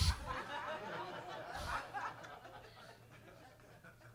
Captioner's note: attendees laughing